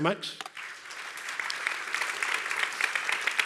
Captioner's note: applause